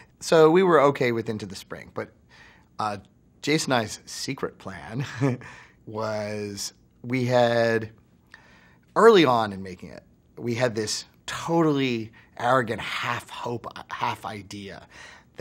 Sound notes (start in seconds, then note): 4.9 laughs